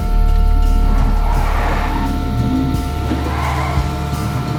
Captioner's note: tires squealing